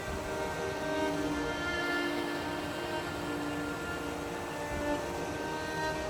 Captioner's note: continuous sentimental music; sound of the creek